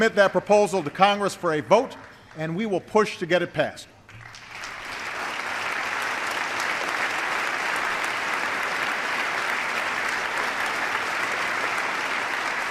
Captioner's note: applause